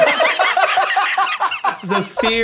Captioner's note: laughter